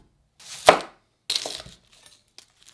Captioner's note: knife cutting